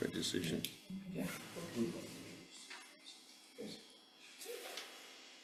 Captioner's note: indistinct background chatter